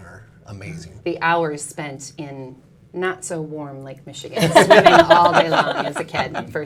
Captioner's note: laughs